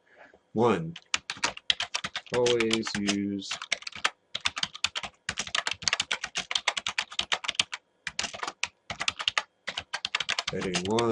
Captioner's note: typing